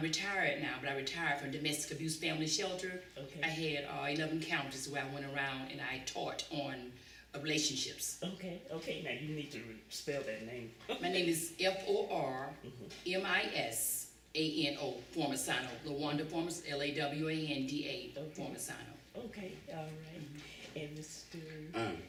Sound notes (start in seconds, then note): 11.3 laughs